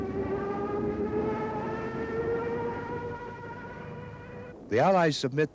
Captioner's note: plane continues buzzing